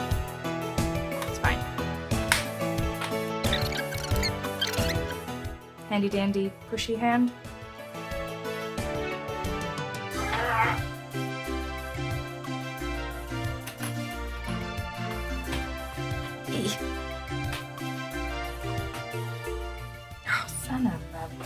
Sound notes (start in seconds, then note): 9.8 straining noise